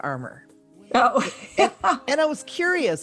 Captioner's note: laughs